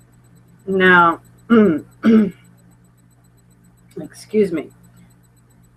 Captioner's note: clearing throat